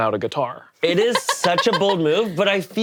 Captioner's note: laughs